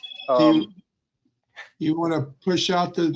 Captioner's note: phone ringing